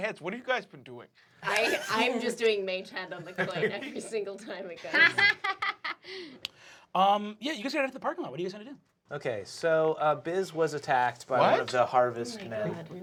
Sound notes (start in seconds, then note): 4.8 laughs